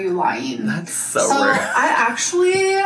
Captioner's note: laughing